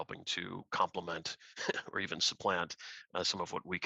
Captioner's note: laughter